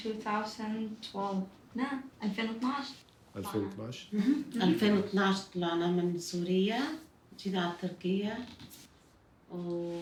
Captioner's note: non-english speech